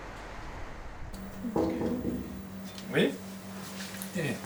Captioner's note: knock on door